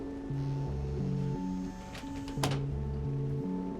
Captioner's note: door creaks